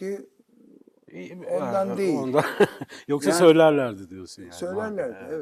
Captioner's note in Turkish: kahkaha